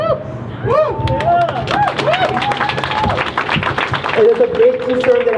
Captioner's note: crowd cheers